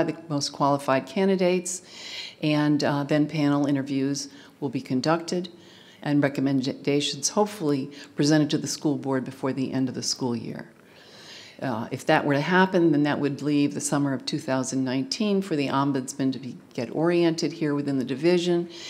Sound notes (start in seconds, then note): none